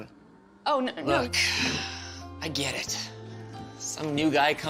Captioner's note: sighs